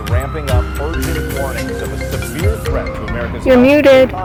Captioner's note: police siren blares